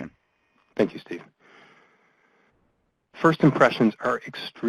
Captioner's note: voiceover